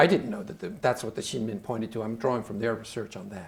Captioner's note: speaking Chinese